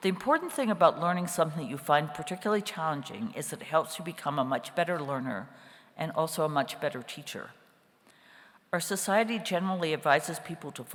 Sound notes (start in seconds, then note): none